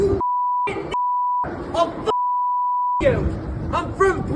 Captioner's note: beep